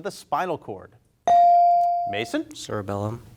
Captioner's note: bell rings